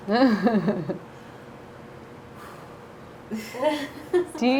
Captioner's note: laughter